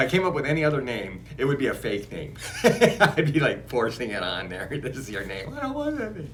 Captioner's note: laughs